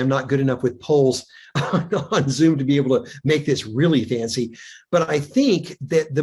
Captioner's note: chuckles